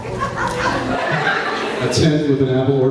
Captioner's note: laughs